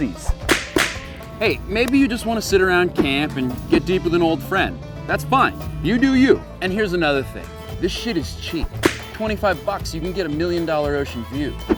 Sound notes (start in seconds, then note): 0.2 whip cracking twice; 8.6 whip cracking